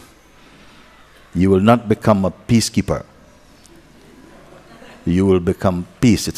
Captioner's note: laughter